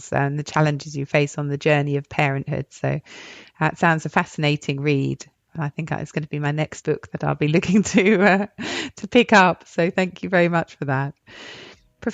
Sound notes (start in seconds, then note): 7.8 chuckles